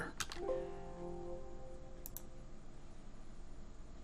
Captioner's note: keyboard clicks